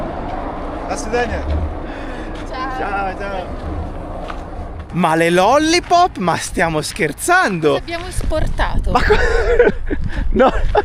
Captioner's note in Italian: risate